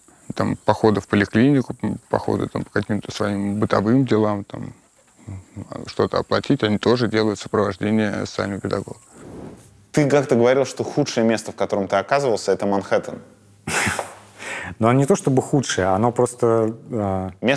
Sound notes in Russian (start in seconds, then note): 13.7 смеется